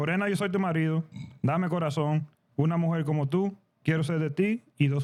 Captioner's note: speaking In Foreign Language